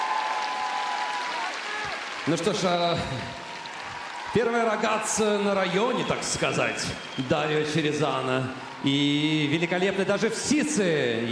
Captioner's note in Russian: аплодисменты